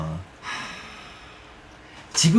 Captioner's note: sigh